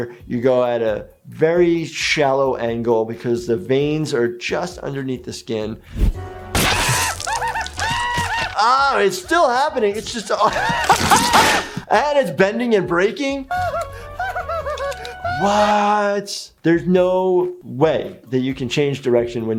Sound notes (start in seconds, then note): 6.6 painful screams; 10.3 laughs; 10.7 snapping